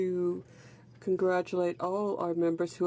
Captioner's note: speaking French